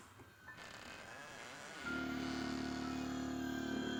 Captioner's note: door creaking